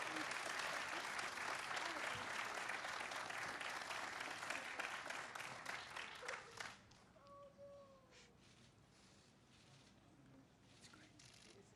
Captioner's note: applause